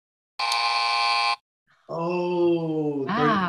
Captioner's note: buzz